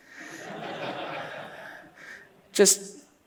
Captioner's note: laughs